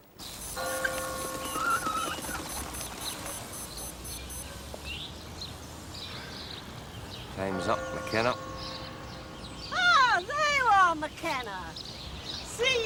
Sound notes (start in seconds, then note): 0.6 bell tolling; 3.2 watch alarm beeping